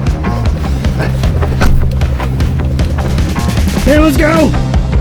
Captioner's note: car door slamming